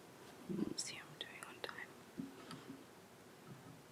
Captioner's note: whispering